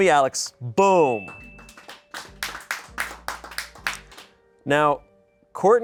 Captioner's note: bell dings; people applaud